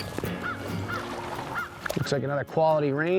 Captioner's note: acoustic music; birds squawking